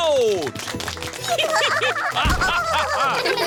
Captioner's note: applause; all giggling